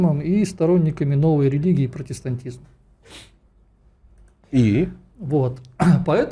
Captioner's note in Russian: фыркает